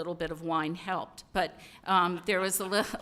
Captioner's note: laughter